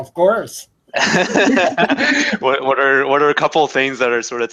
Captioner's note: laugh